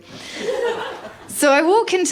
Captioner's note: laughter